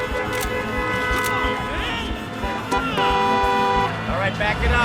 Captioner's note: car horns blaring